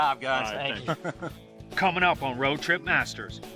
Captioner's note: laughter